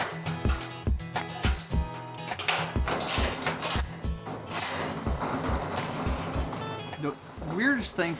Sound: lock and keys rattle

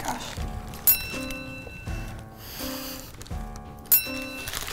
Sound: bell ringing; bell ringing

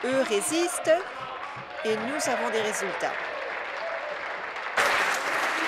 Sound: applause

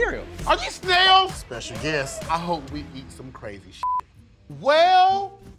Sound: beep

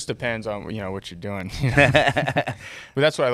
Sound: laughing

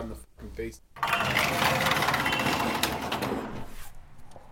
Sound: door opening

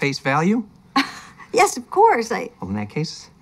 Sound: chuckles

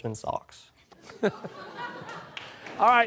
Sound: laughter

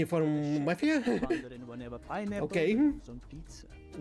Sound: laughing

